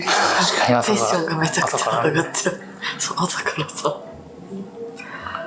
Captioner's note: laughs